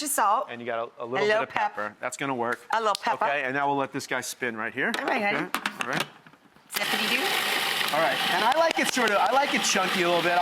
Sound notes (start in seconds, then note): 6.8 machine grinds; 8.4 claps